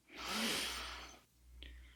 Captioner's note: inhales deeply